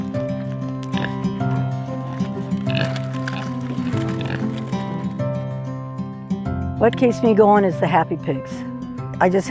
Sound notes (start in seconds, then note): 0.0 pig snorts